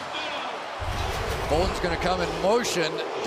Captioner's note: pa announcement; crowd chanting